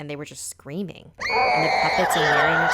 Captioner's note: screaming